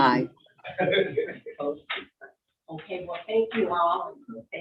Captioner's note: all chuckling